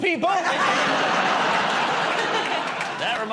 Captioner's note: laughter